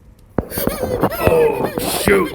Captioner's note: Pipe the Clone's whimpering